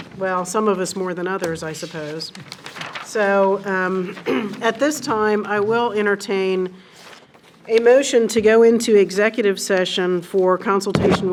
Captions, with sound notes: Well, some of us more than others I suppose. So, (clears throat) at this time I will entertain a motion to go into executive session for consultation